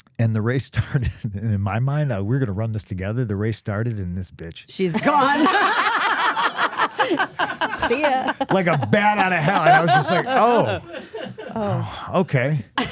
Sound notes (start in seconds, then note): 4.9 laughing